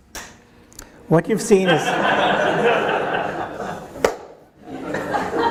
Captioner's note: audience laughing